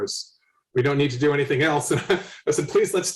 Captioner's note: laughs